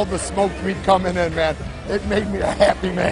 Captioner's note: laughter